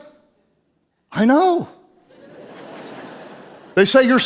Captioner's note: audience laughing